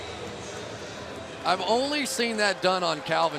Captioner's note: pa announcement